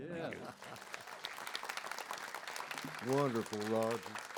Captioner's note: audience applauds